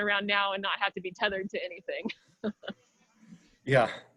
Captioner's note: chuckles